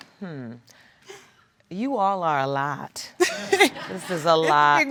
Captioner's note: chuckles